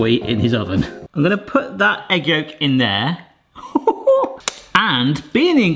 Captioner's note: laughs